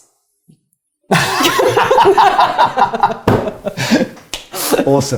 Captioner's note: mutual laughter